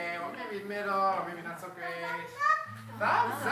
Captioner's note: child's voice